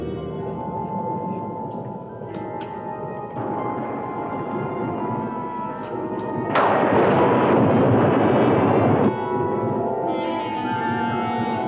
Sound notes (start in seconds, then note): 0.3 moves to brooding music; 6.3 thunder crashing